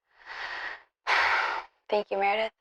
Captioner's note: Georgia sighs